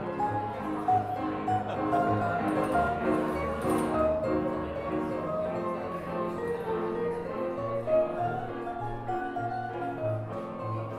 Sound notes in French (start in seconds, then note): 1.6 rires; 2.4 musique et on entend des personnes parler